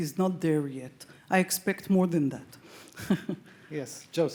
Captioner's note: chuckles